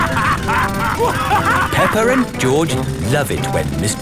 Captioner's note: both laughing; drilling